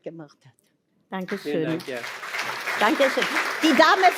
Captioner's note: applause